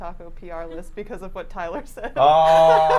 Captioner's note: laughs